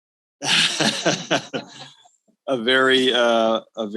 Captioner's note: all chuckles